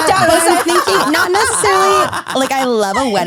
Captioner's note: all laughing